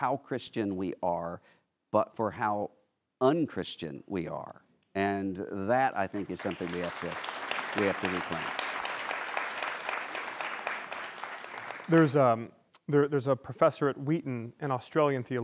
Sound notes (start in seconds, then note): 6.1 applause